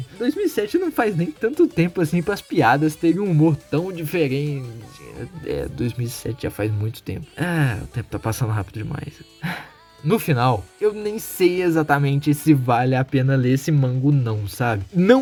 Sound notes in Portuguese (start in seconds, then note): 9.4 Sigh